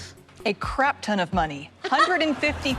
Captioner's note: laughs